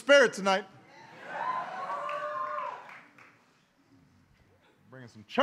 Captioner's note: applause